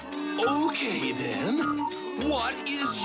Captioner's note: crowd boos